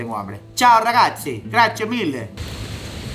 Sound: mimics italian

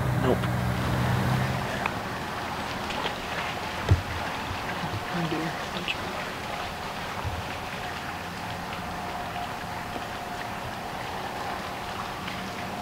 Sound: road noise

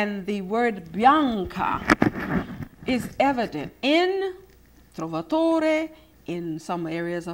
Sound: foreign language

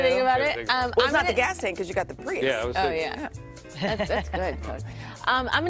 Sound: laughter

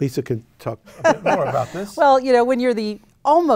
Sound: laughs

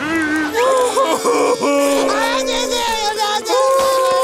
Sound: crying

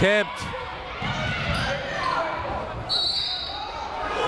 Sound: people shouting in the crowd; whistle tweeting

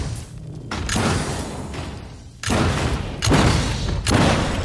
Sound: guns firing

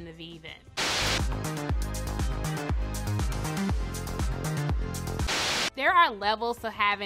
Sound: up-tempo dance music; TV static hisses

